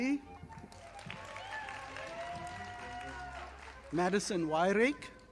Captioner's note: audience applauding